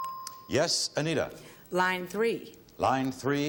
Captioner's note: ding